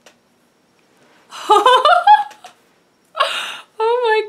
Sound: laughs

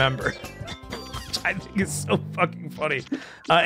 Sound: laughs

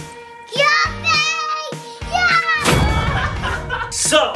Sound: yelling; laughter

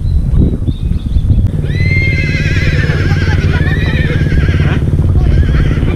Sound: neighing

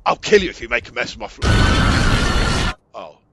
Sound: the non-diagetic screechings of a monumental cock up

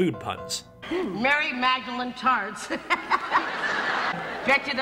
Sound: audience laughter

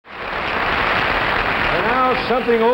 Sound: audience applause

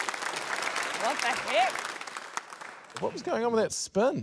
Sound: applause

